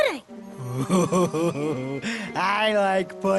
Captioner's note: laughs